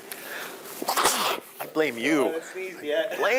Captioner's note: sneezing